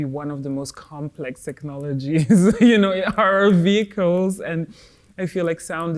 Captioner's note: laughs